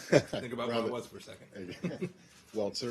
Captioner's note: laughter